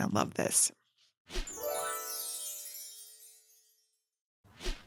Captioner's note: gentle chiming